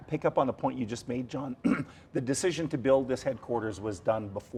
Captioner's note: clears throat